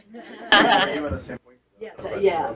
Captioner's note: laughter